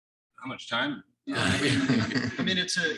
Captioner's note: all laughing